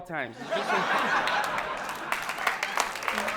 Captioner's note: audience laughing